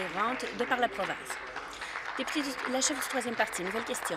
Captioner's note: applause